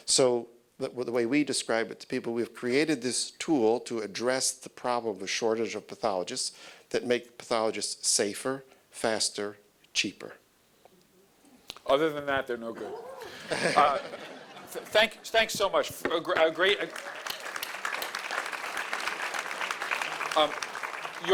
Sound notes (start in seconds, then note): 12.8 audience laughing; 16.1 audience applauding